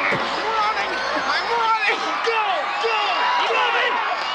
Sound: crowd cheering; whistle shrills; upbeat music

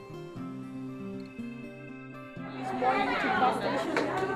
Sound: lively chatter

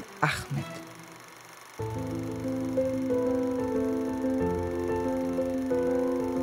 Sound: reel grinding; soft music

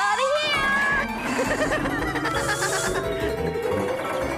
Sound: Spud Laughing

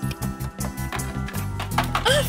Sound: gasping

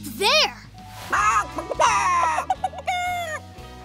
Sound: clucking

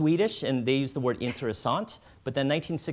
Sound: speaking foreign language

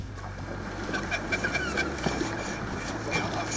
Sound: laughing

